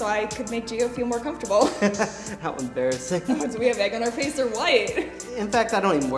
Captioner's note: he laughs